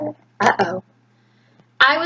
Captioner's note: talking to child